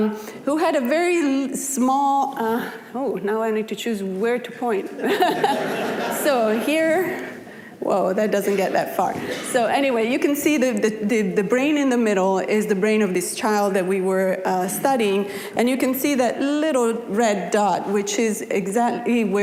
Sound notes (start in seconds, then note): 5.0 audience laughing; 5.0 laughing